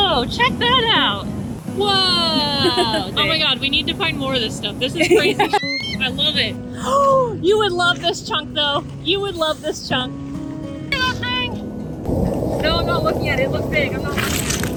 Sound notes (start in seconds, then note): 6.8 gasp